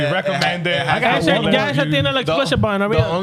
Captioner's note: speaking Spanish